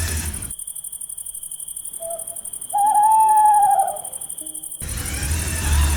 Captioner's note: crickets chirping, owl crying